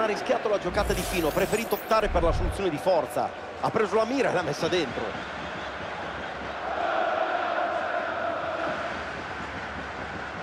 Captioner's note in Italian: Applauso